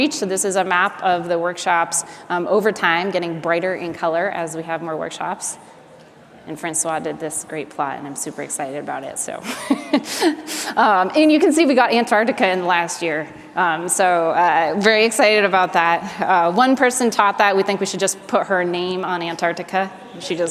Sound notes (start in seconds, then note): 9.4 laughs